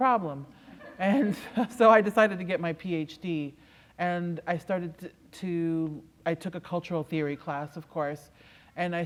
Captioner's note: laughter